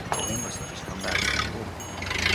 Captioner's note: bell dinging